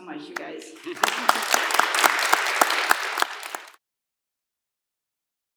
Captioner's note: applause